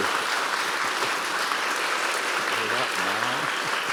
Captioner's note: applause